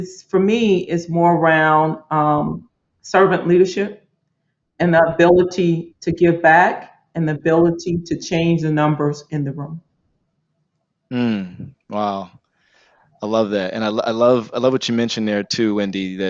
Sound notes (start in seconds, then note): 13.2 Marco exclaims